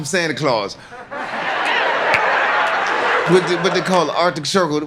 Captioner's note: audience laughs